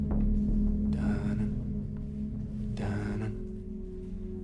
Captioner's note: man hums